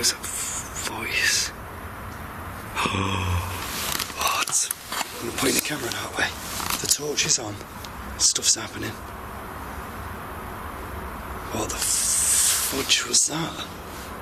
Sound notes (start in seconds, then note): 3.1 gasp